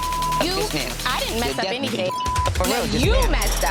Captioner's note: beep